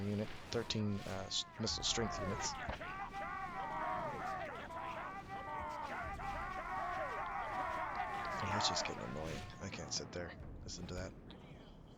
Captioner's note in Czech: Potlesk